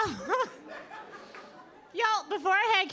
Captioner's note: audience laughing